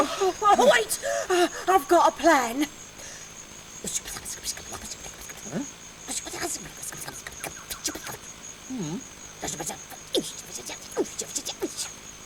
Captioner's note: whispering sound